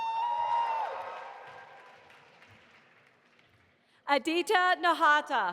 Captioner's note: audience applauding